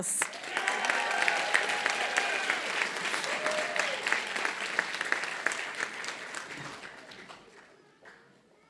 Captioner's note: applause